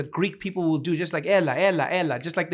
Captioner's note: speaking Greek